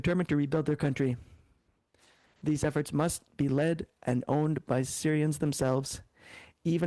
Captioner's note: speaking French